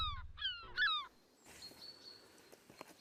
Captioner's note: gull squawking; birds chirping